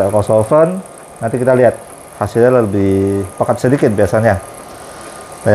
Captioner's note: printer machine noise